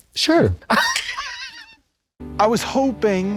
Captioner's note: blonde Women wheeze